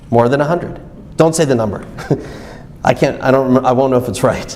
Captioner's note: chuckles